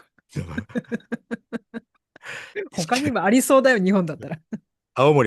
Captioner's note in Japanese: 笑い